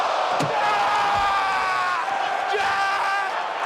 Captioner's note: screams